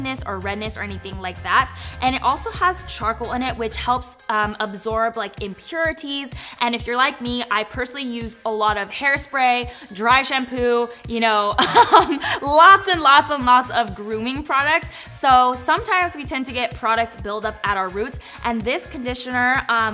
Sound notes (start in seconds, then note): 11.6 chuckles